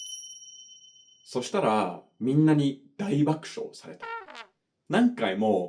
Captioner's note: laughs